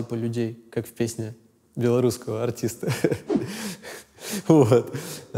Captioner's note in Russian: смеется